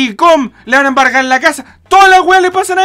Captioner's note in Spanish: inhales